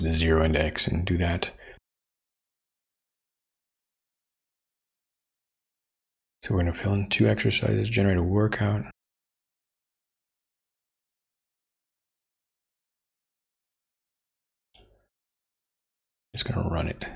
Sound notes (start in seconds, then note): 2.0 blank Audio; 9.2 blank Audio